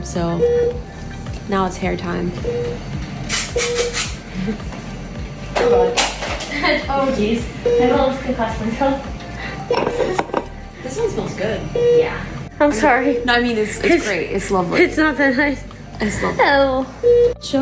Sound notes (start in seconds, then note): 2.3 machine beeping; 9.4 chuckles; 9.9 machine beeping; 13.0 machine beeping; 16.8 machine beeping